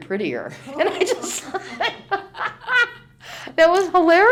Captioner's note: laughs